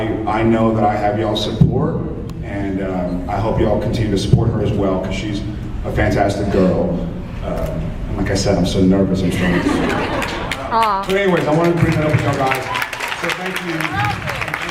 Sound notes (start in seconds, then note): 10.1 applauds